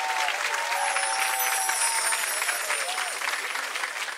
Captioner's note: chimes